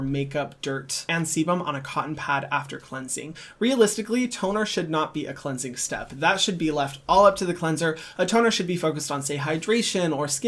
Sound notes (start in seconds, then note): none